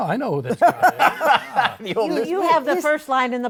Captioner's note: laughter